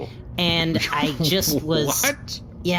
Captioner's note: laughing